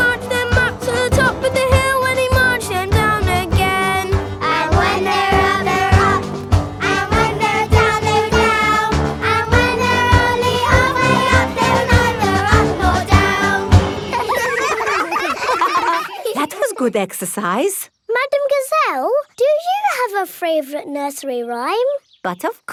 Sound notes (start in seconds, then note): 13.9 all giggling